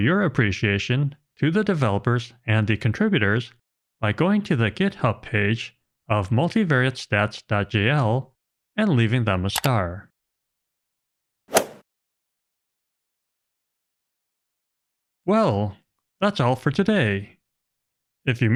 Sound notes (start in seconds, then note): 11.5 golf ball hit sound effect